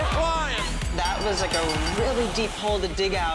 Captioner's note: bell ringing